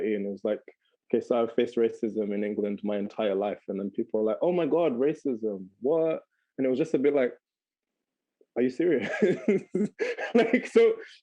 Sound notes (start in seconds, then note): 9.1 laughing